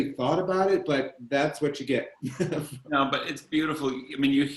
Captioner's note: chuckles